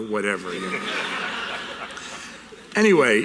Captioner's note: audience laughter